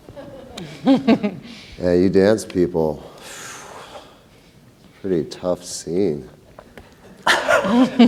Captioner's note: laughs; exhales; laughter